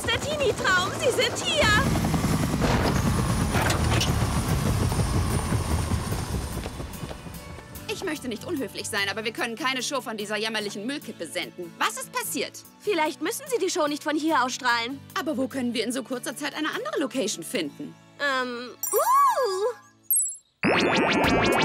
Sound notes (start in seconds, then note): 2.4 helicopter sound